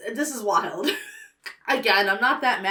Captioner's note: laughs